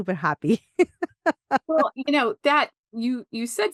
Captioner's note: laughs